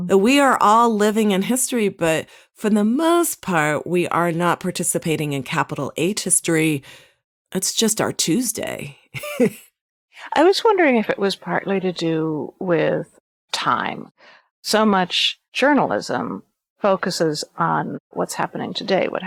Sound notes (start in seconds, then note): 9.2 laughs